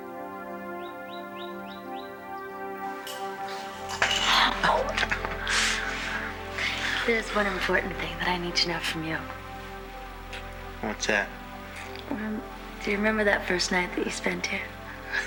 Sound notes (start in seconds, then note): 4.0 winces